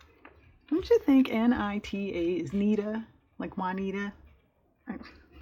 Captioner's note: laughs